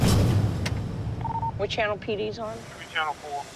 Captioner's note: radio chirps